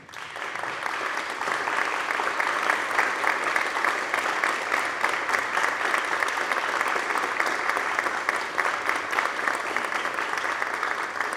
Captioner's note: applause